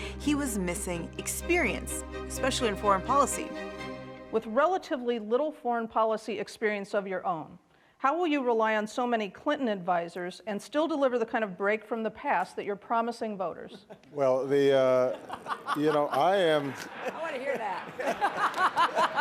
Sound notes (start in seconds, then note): 16.6 Hillary Clinton laughing